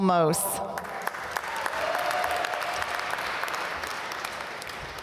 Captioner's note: applause